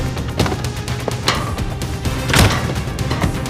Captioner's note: door slams